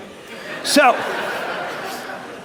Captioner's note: laughter